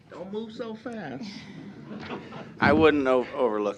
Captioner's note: laughter